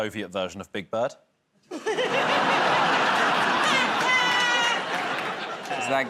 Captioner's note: laughter